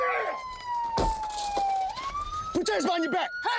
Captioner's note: siren wailing